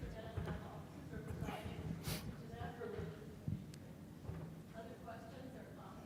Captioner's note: muffled without mic